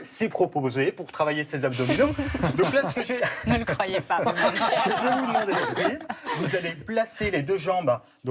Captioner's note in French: rires